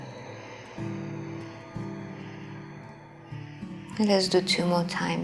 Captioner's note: exhaling